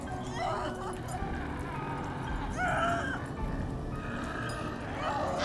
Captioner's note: Heather screaming